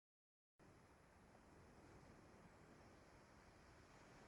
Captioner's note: sound of waves